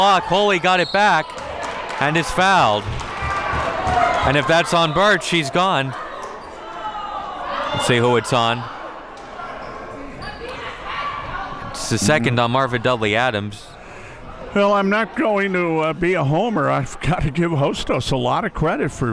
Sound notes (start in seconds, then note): 0.7 whistle blows; 1.2 audience clapping